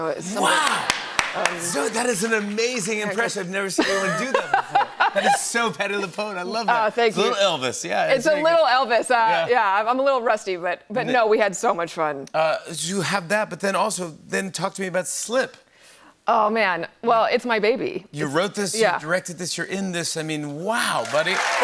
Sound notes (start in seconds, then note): 4.8 laughs